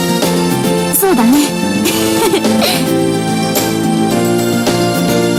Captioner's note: laughs